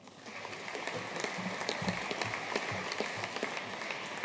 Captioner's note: audience applauding